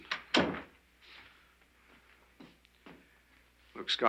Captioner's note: door bangs